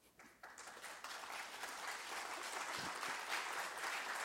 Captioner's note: audience applause